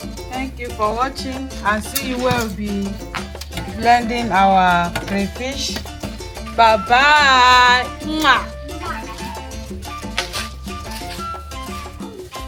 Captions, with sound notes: thank you for watching...and see you when we would be... blending our crayfish bye bye (kisses)